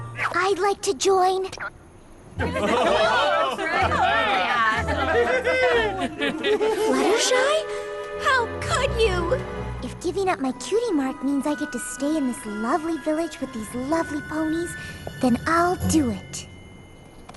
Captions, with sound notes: I'd like to join! [excited chatter] Fluttershy? How could you? If giving up my Cutie Mark means I get to stay in this lovely village with these lovely ponies, then I'll do it.